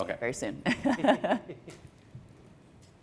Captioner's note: laughter